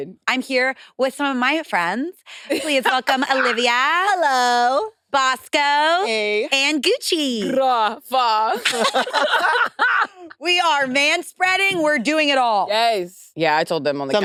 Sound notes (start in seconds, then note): 8.5 participants laughing